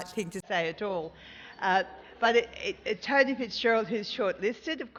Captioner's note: laugh